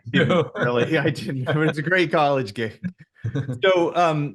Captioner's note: laughs